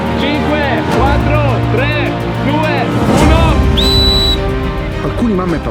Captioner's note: whistle